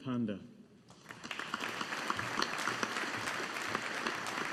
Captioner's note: audience applauding